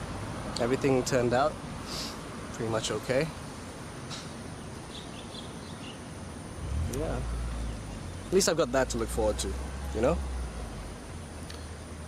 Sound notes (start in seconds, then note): none